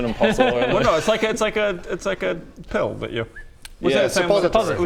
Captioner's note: whistle